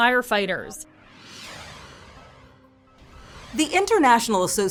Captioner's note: air whooshes